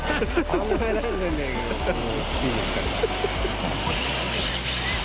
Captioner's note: laughs